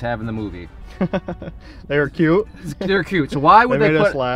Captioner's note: laughs